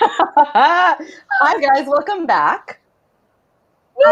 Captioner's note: laughs